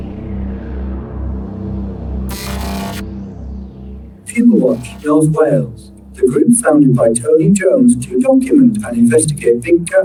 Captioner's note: Robotic voice gives clues